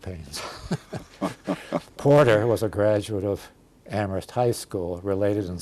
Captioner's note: laughter